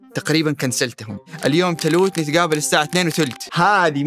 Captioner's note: in a variety of Hijazi accent